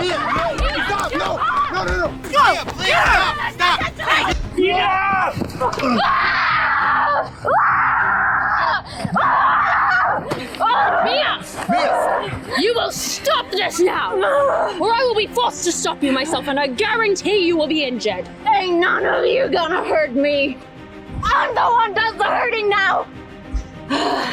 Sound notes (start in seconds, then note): 0.0 staff hits skull; 7.2 Mia Screaming